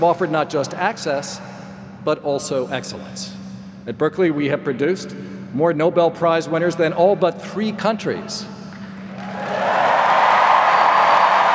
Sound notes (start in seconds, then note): 9.0 applause